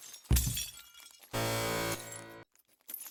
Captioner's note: glass shatters, body thud; buzzer